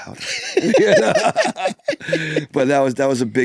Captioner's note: pair laughs